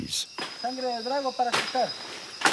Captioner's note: foreign spoken audio